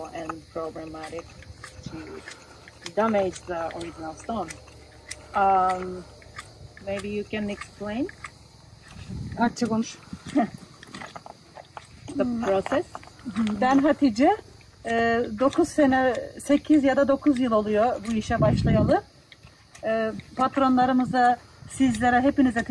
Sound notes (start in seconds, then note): 9.0 Women speaking Turkish; 10.1 Turkish; 14.5 Turkish